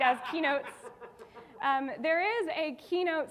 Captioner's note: audience laughing